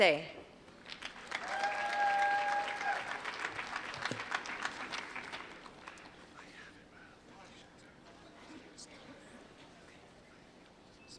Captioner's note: applause